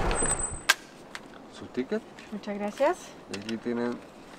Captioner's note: in Spanish